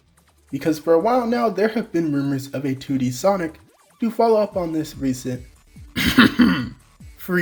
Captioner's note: cough